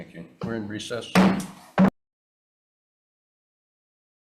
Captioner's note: gavel bangs